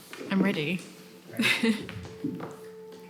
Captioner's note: chair creaking; chuckles